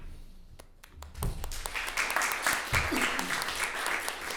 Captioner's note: applauding